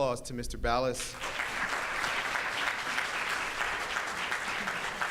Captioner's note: audience claps